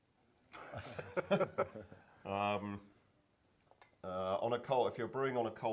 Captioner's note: laughter